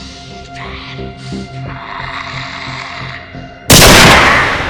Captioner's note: Terry Slade groaning; gun blasting